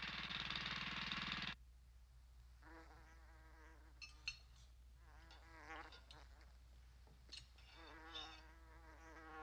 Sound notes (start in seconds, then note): 2.6 flies buzzing; 4.0 dishes and utensils clanking